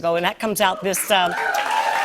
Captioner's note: cheers and applause